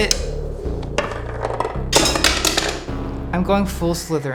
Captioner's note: wand thudding